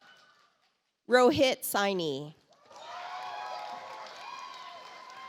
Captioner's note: audience applauds